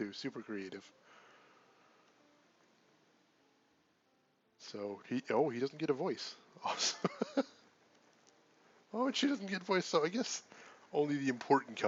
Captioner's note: laughs